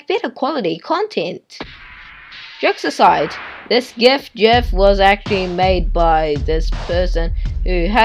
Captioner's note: laugh track